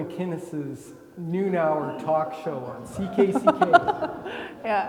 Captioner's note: laughing